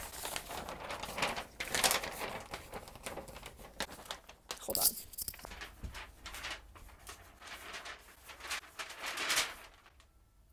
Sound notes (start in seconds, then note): 0.3 paper rustle intensifies; 5.8 paper rustles *with flair* for the drama